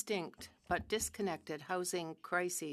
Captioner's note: speaking french